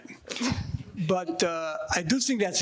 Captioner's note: panelists and audience laughing